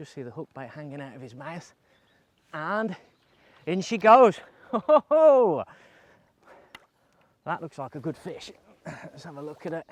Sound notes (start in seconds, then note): 4.6 laughs